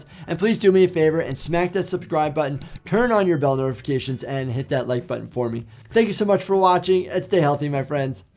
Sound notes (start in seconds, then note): 2.6 button clicking; 2.6 bell dings